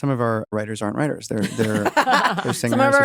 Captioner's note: laugh